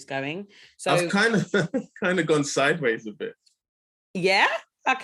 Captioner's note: laughing